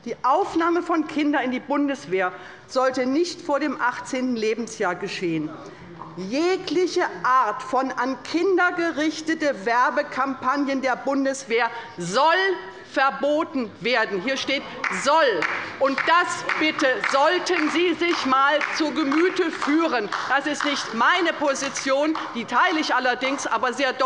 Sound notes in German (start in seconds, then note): 15.3 Beifall bei der LINKEN - Zurufe von der CDU